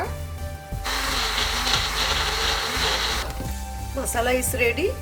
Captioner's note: blender whirring